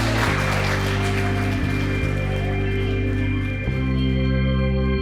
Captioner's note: applause